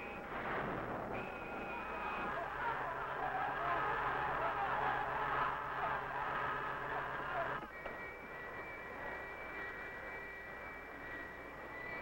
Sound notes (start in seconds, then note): 2.0 men yelling